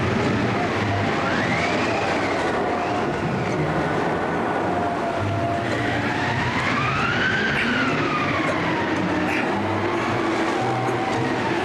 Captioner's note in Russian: крик